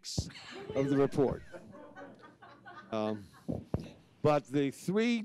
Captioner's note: audience laughs